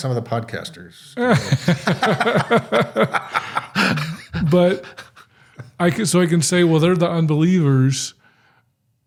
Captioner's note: chuckling